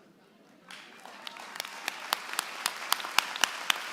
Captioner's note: applause